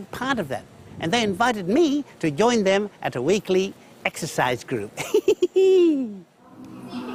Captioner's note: laughs